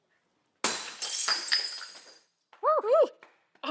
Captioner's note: glass shattering